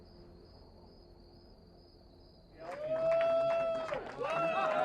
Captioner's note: crickets chirping